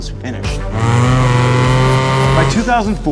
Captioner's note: loud engine racing